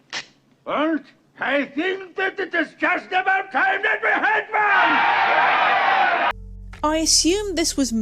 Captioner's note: crowd cheering